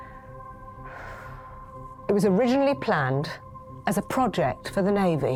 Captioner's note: sighs